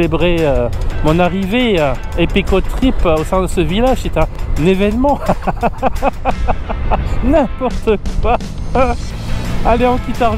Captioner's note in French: rire